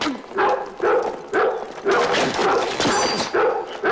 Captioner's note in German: Dojan bellt